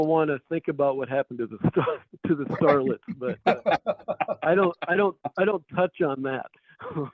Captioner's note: laugh; laughs